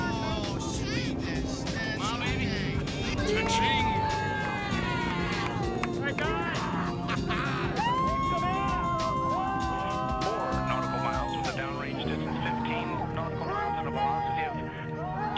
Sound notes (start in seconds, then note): 3.3 shouting and cheering; 14.9 cheering continuing